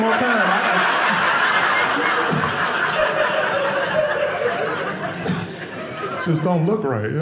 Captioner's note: audience laughing